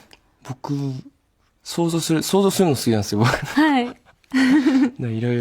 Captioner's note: laughs